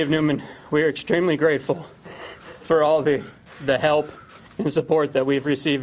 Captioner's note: sobbing